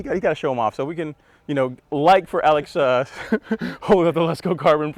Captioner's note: laughs